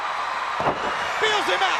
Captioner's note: crowd cheering; Ric thudding on ring